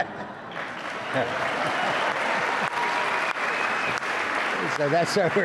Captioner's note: audience applauds; audience laughs